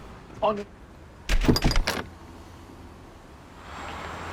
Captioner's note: door slamming